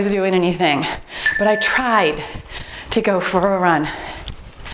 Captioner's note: timer beeps